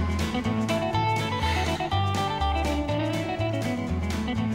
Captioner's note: sighs